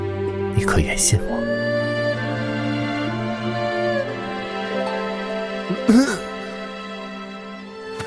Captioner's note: cough